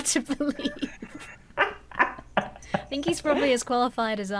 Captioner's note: both laugh